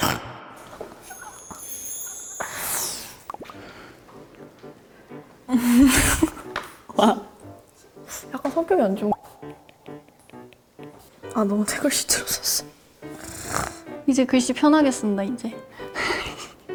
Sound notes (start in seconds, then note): 13.1 grumbling